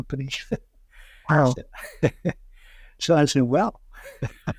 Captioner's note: laughs